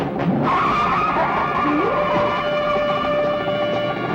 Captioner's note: suspenseful music; car squeals and runs; dramatic music